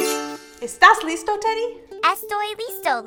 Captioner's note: speaking in a foreign language